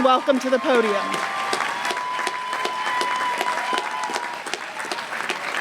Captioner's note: applause